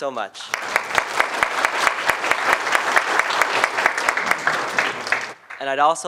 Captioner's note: applause